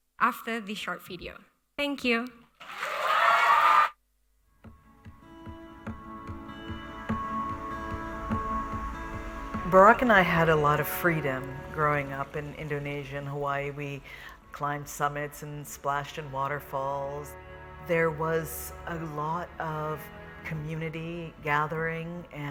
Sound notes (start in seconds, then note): 2.6 audience cheering; 5.2 upbeat music